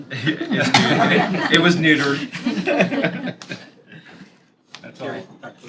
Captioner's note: laughter